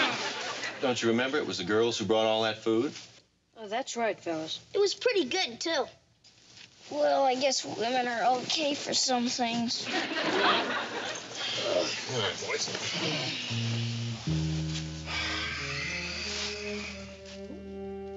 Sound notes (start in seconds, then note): 9.8 audience laughing; 13.4 relaxing music